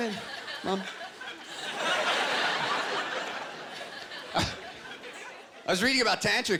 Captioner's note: laughter